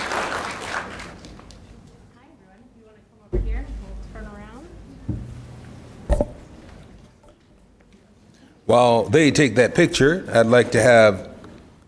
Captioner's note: applause